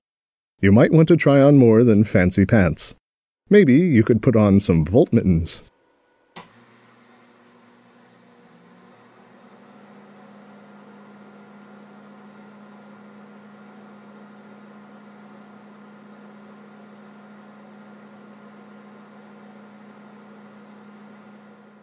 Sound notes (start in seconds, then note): 6.3 click!; 6.3 whirring fan noise